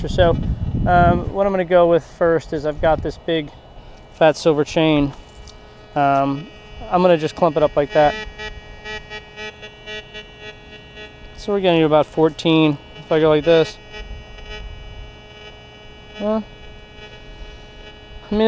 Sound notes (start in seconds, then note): 8.3 detector beeps; 13.8 detector beeps